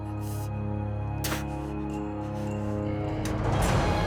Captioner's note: spits